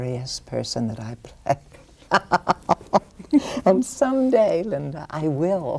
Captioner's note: laughs